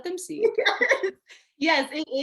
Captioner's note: laughing